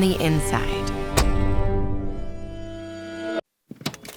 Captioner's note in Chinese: 關門聲